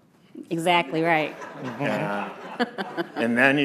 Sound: all laughing

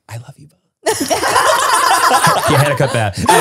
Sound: everyone laughs

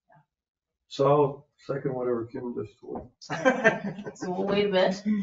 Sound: chuckles

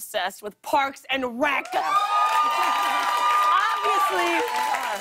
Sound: cheers and applause

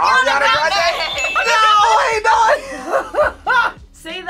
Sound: laughs

